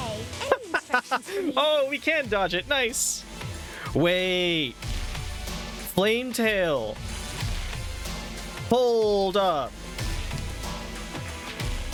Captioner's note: laughing